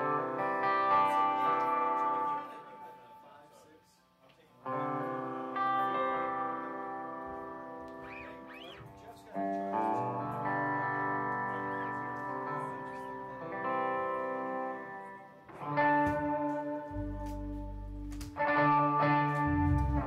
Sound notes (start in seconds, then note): 0.1 background Chatter